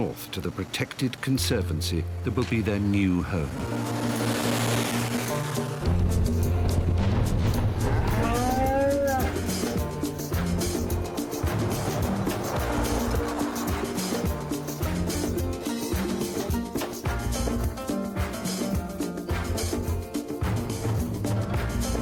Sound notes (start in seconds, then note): 7.8 cow moos